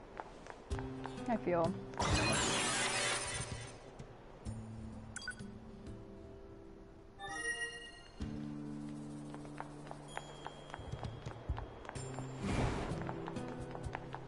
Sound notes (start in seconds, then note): none